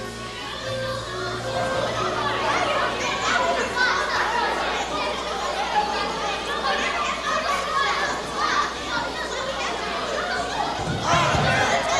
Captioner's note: crowd noises with no discernible dialogue